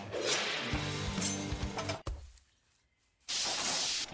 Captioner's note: wet stab